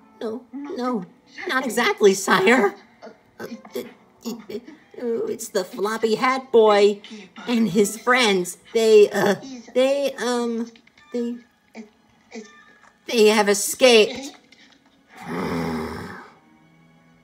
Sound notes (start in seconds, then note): 3.3 stammering; 15.1 Ganondorf growls in frustration